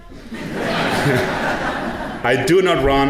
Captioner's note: audience laughing